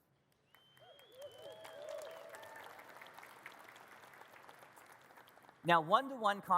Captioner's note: audience cheers and claps